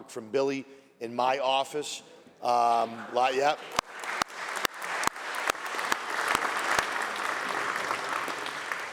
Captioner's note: applause